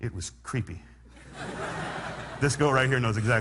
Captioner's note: laughter